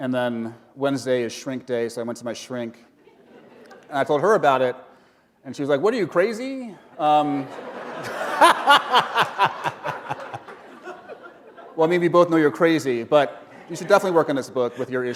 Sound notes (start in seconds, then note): 3.2 chuckle; 7.2 laughter